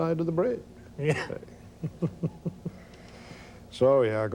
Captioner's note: laughs